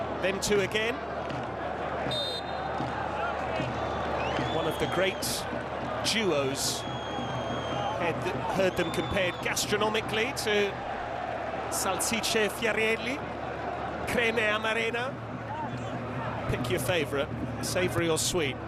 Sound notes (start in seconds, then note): 4.7 whistle; 5.8 drumming